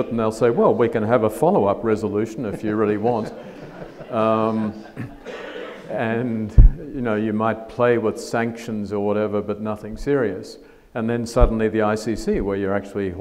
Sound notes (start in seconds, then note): 2.4 audience laughs